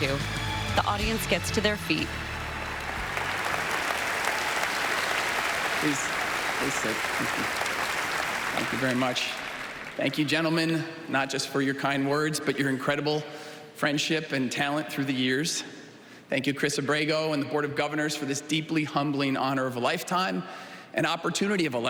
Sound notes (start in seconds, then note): 1.8 applause